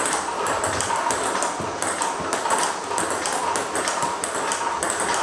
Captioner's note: ball ping pong hitting continues